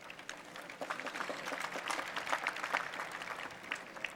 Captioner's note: applause